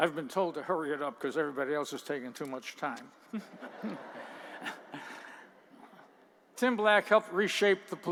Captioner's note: laughter